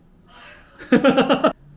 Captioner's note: sigh